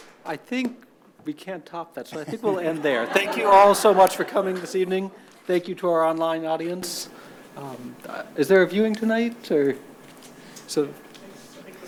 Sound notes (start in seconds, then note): 2.2 audience laughs